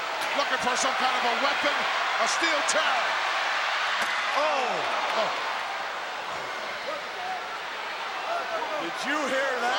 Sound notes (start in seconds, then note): 5.7 crowd yelling